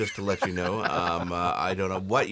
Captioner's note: laughs